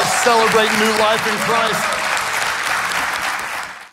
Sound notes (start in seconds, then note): 1.9 congregation claps and cheers